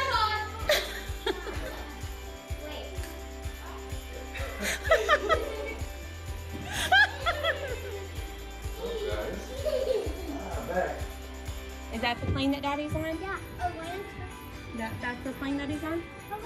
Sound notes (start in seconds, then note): 1.0 cameraperson laughing; 4.4 everyone laughing; 8.7 children laughing